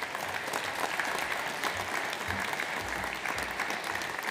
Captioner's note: audience applauds